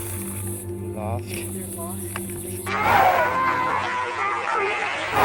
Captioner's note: children screaming